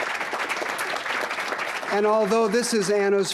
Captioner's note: applause